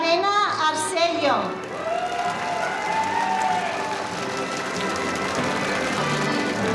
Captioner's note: audience applauding